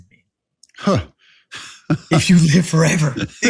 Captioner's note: laugh